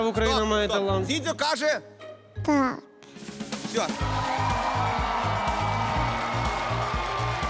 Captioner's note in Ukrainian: оплески